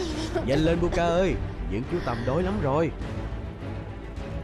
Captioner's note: coughing